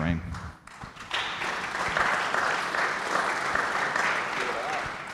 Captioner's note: audience applauding